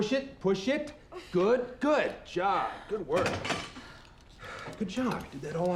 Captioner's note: weights clatter